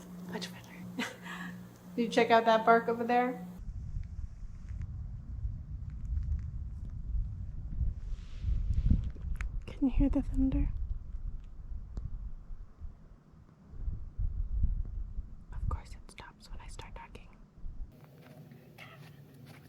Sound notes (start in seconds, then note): 0.8 scoffs; 3.6 distant thunder